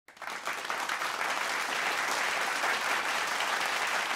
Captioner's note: audience applauds